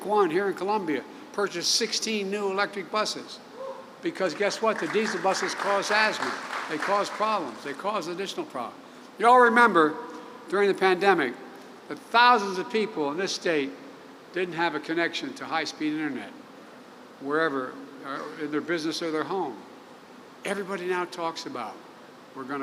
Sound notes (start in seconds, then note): 4.5 applause